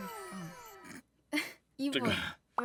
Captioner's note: laughs